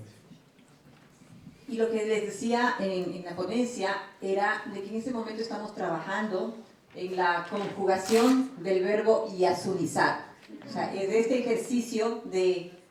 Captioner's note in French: Espagnol